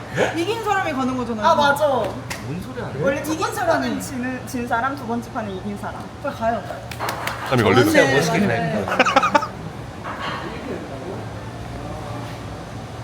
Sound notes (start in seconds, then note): 6.7 clapping; 7.5 laughs